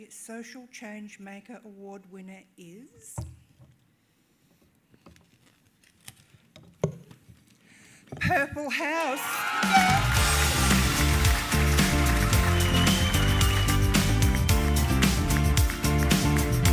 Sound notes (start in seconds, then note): 9.4 cheering